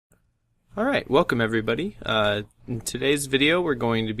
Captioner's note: voiceover